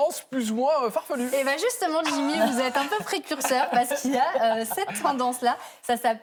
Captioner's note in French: rires